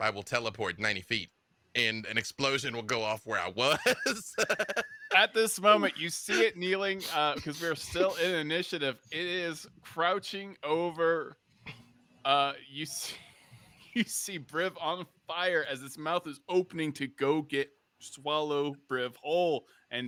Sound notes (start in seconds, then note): 3.6 laughs